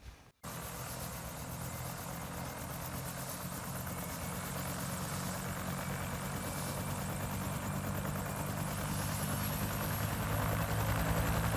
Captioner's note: loud helicopter propeller sounds